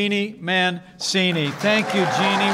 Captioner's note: applause